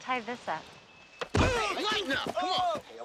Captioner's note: body thudding; Martinez groaning